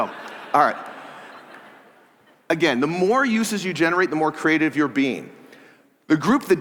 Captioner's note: laughter